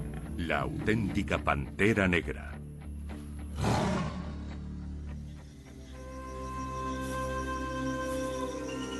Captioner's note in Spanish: resoplido